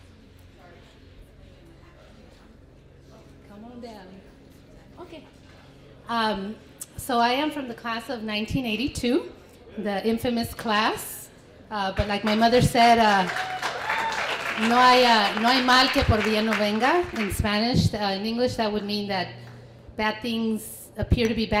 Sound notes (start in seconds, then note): 12.0 applause; 16.2 foreign language